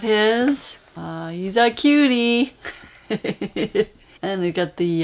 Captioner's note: laughs